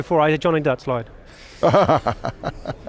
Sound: laughing

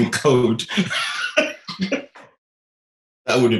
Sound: laughing

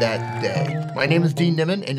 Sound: audience cheering

